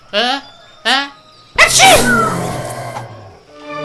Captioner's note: sneezes